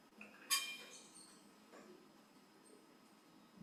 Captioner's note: metal clangs